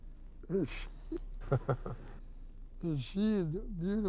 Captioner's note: chuckling